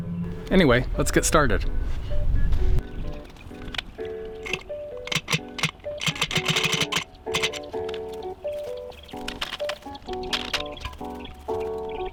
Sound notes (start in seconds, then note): 1.9 bouncy, fun music; 3.0 metal to metal sound